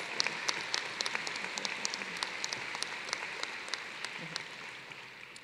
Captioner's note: applause